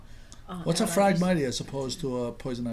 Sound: voiceover

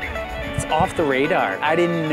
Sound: male Voice

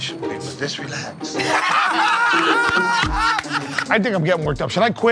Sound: laughter

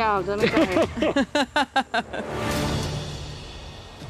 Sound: laughter

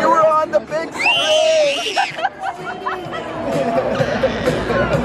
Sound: yelling

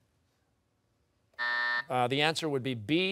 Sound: buzzer

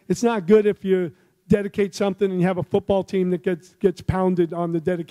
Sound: none

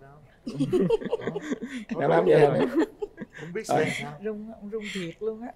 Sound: laughter

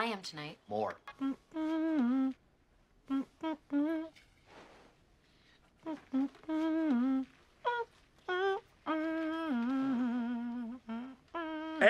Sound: ABED humms DAYBREAK by MICHAEL HAGGINS

